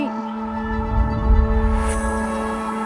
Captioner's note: whoosh